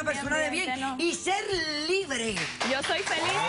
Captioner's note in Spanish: aplausos